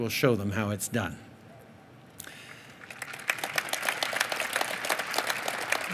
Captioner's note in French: Applaudissements